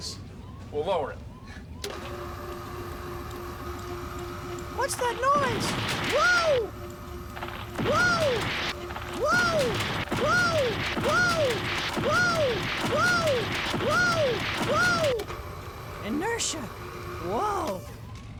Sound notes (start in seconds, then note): 1.6 machinery grinding; 3.5 <i> High-pitched voice</i>